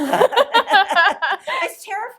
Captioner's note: both laughing